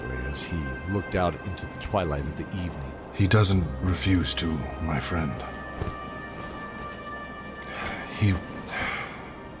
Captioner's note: sigh